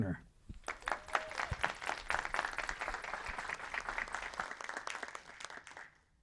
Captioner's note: audience applauds